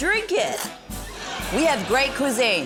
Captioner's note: splutters